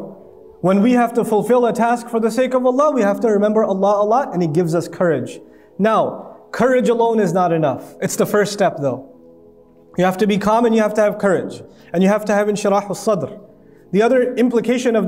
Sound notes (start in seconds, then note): 13.1 Arabic